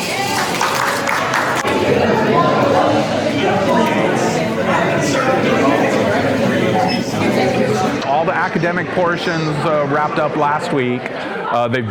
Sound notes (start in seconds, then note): 0.0 crowd cheers and applauds; 1.6 people chattering